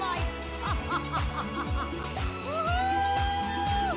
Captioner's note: melai fake laughing